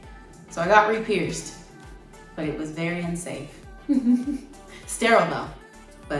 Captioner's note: laughs